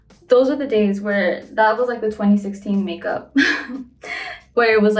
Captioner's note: chuckles